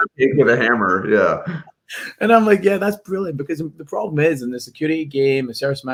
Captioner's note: laughs